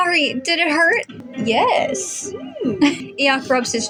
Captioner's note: approving Noises; chuckle